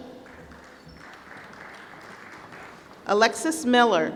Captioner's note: applause